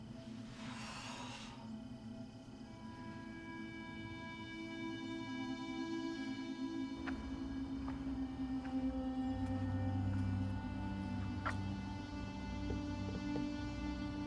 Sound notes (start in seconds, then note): 0.5 exhales sharply